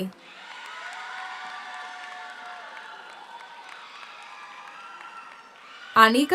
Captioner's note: audience cheers; audience applauds